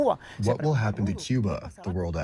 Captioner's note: through translator